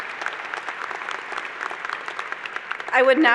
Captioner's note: applause